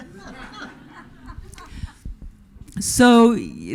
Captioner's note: audience laughing